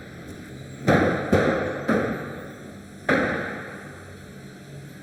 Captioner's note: doors clunking